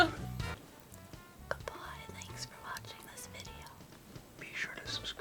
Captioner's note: laughs; whispers